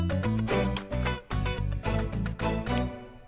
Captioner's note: Switch clicks